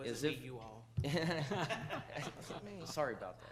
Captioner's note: laughs